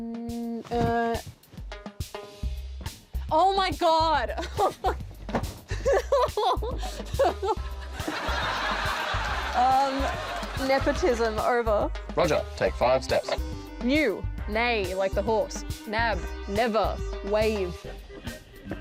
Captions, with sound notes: Mm... Uh... Oh, my God! [LAUGHS] [LAUGHTER] Um... Nepotism. Over. Roger, take five steps. New. Neigh, like the horse. Nab. Never. Wave.